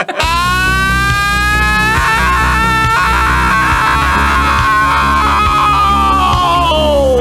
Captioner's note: screaming